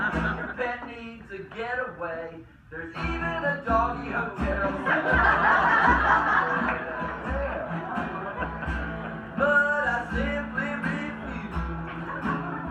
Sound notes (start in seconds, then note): 4.4 crowd laughs